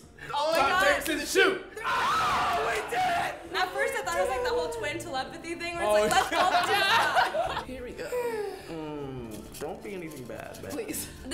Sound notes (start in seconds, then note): 1.8 shouting loudly; 6.3 loud laughter; 8.4 humming anxiously; 9.3 rummaging